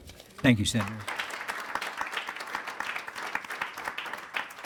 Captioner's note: attendees applauding